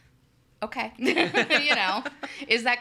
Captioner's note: laughs